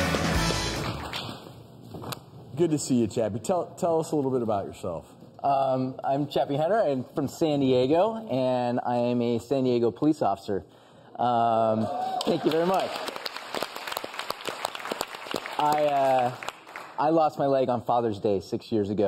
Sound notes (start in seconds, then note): 11.8 audience cheers; 12.0 audience claps